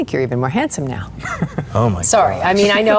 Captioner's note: laughs